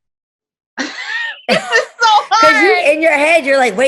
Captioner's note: laughing